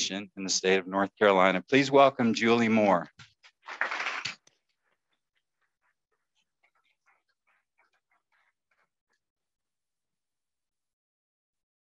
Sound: applause

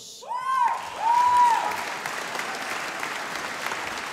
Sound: audience applauding

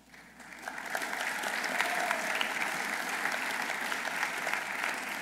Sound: audience applauding

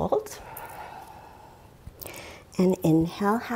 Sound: exhales deeply

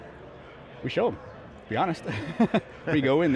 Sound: laughing

